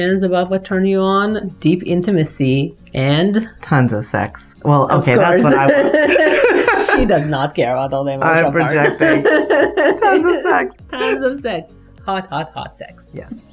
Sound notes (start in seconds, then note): 5.4 both laughing